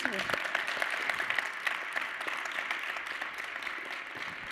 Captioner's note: audience applauding